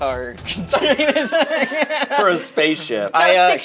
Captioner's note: group laughs